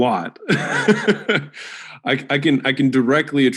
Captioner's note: Alex laughs